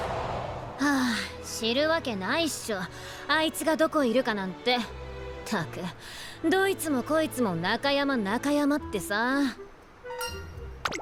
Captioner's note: sigh